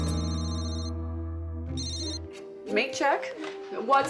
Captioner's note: phone ringing